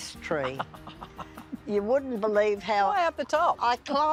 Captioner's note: laughs